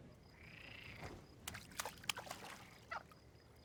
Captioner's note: frogs ribbiting; rock skipping on water